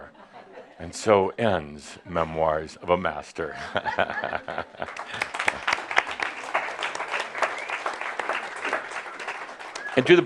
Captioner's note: chuckles and audience applause